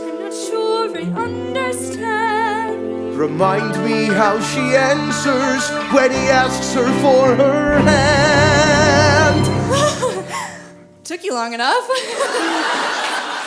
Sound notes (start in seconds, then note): 9.8 happily gasps; 11.8 happily laughs